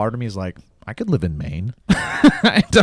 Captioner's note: laughs